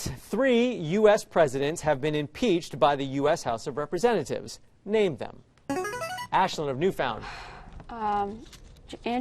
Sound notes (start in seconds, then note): 5.7 chiming